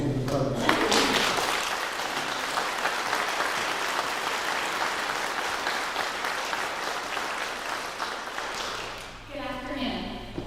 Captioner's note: clapping